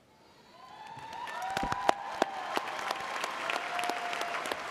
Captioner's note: audience applauding